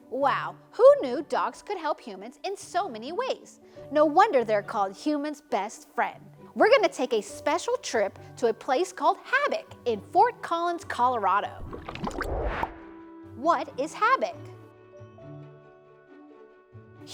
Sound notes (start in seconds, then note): 11.5 water burbling; 11.6 transition whooshes; 14.9 gentle inspirational music continues